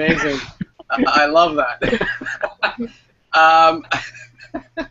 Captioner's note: laughs